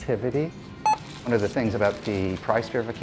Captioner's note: beep